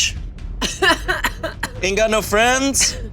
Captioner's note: laughing